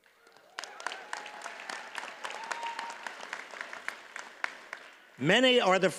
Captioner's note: audience cheers and applauds